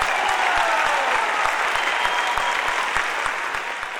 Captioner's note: audience cheering